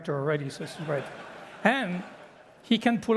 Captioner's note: laughter